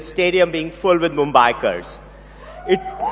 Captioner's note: laughter